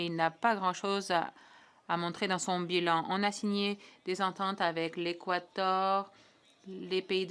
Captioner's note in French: voix de l'interprète